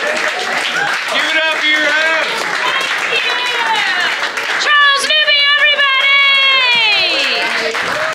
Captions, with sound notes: GIVE IT UP FOR YOUR HOST! Thank You! CHARLES NEWBY EVERYBODY! [APPLAUSE]